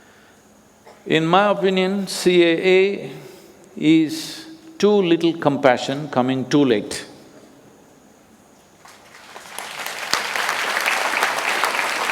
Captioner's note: applause